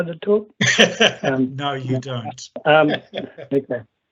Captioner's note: laughing